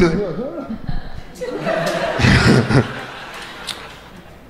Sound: crowd laughing

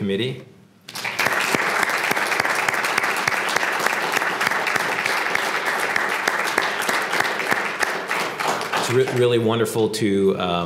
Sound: applause

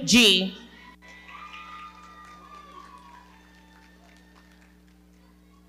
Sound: audience cheering and clapping

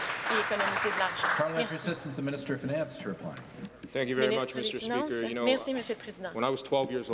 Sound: some Applause

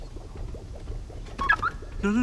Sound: beeps

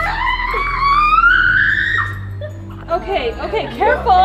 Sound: kids screaming

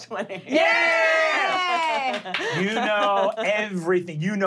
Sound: clapping and cheering

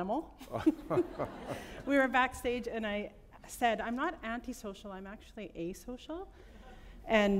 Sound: laughter

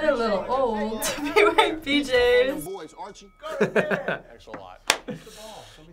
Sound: laughs

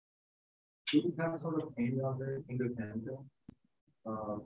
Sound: speaking faintly

